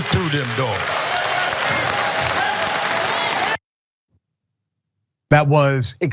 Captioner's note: applause